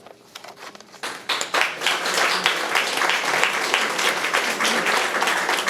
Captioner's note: audience applauding